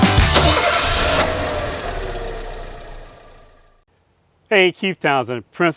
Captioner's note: car engine starting